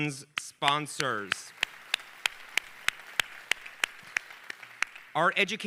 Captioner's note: audience applauding